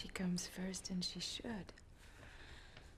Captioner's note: sighs